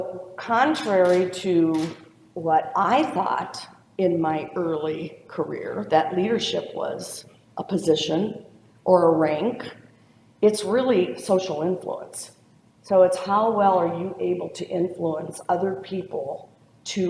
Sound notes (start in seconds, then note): none